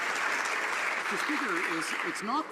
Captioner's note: some Applause